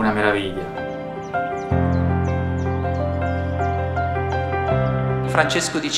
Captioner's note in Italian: cinguettio